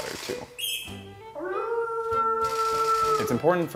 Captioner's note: squeals